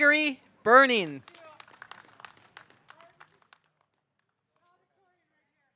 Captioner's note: audience applauding